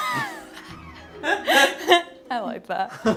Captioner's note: both laughing